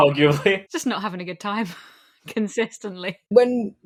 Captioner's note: laughing